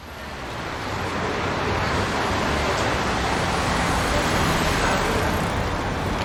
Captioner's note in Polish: the noise of moving cars